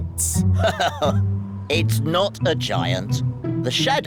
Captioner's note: laughs